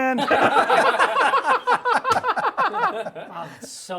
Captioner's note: laughter